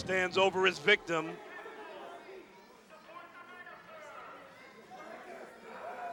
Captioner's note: crowd chatter